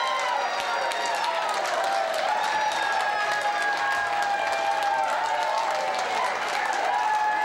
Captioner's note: boisterous cheering